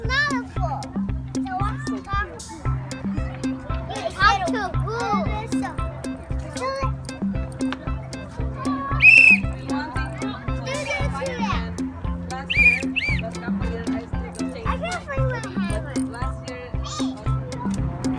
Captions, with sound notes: To talk to who? Whistle it [blows whistle] Do this too loud [blows whistle] I can't find my hammer